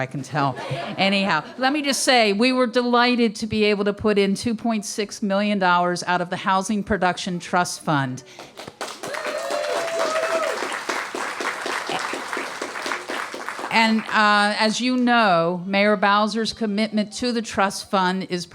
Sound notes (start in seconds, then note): 0.5 laughter; 10.9 applause